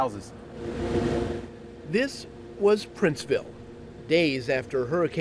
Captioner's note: voiceover